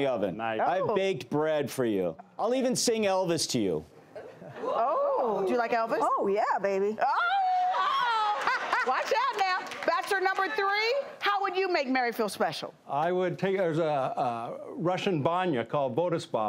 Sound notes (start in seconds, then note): 4.1 gasping; 7.1 cheering